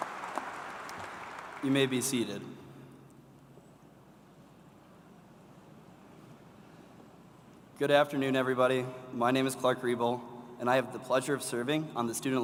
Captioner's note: applause